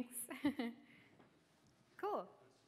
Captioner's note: laughter